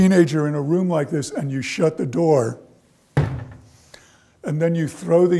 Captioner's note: banging sound